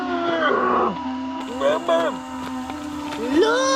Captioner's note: grunting